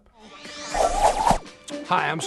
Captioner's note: video frame wooshes